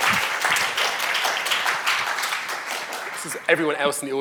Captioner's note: audience applauding